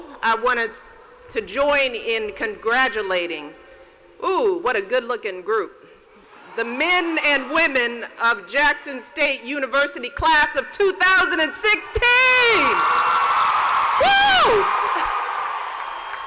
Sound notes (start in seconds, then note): 11.8 cheers and applause